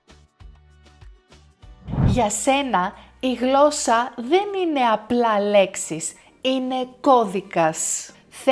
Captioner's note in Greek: ήχος εισαγωγής διαφάνισης